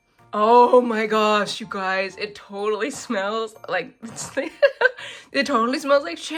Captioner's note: laughs